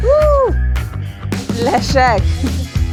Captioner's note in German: Musiker pfeift; Leichte Musik